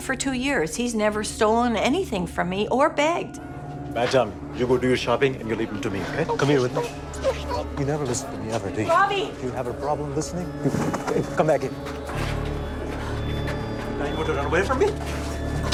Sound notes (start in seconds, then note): 6.3 Ravi whimpers